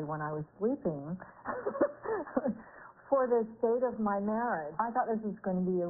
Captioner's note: laughing